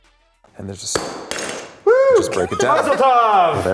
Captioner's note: smashes glass